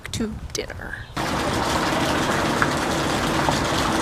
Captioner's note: street noises, fountain splashing